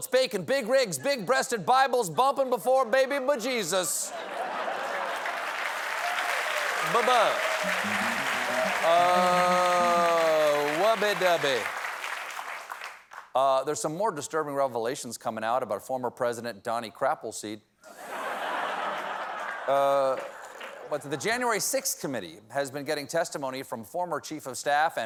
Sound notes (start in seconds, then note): 4.4 cheers and applause; 20.5 laughter